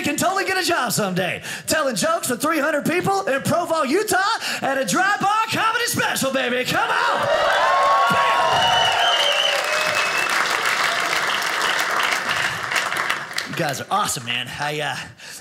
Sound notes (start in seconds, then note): 6.8 audience cheers; 9.2 audience laughing